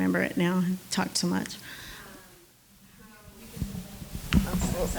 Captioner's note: overlapping chatter